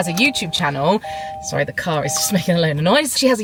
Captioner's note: car chimes